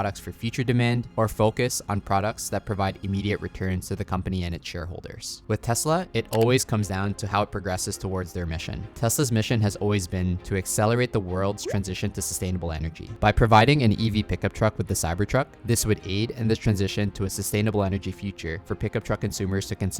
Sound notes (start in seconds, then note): 6.3 cursor clicking; 11.6 graphics popping